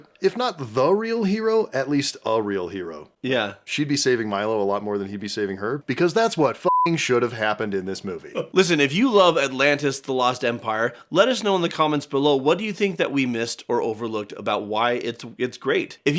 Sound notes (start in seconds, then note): 6.6 beeping